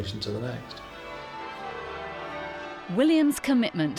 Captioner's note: bells tolling